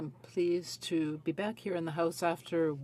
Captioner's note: speaking french